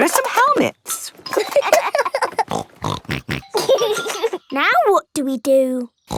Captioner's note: laughing; snorting